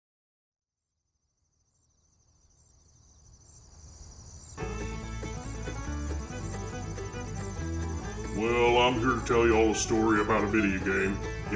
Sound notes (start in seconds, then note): 1.1 cicada singing; 4.6 royalty-free country music